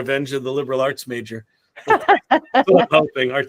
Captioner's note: laughter